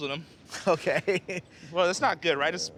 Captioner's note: laughs